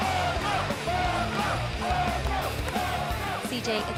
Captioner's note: fans chanting